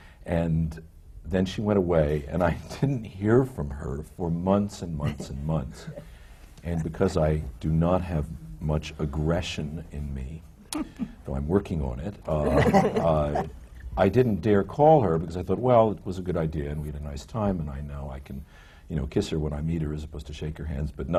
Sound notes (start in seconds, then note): 1.8 laughs; 12.4 laughter